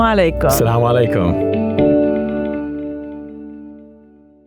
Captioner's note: speaks foreign language